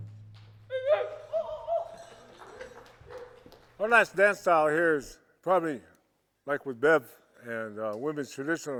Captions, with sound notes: (people whoop and clap) Our last dance style here is probably, like with Bev and Women's Traditional,